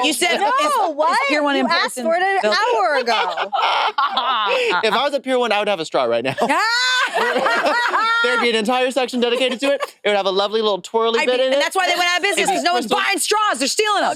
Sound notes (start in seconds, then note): 3.9 participants laughing